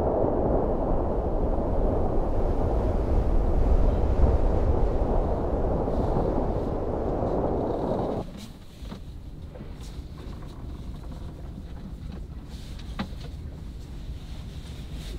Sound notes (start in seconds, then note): 9.8 boat creaking